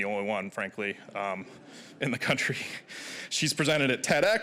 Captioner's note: audience chuckling